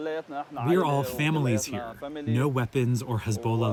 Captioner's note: through translator